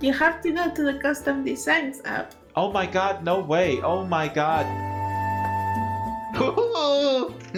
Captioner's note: laughs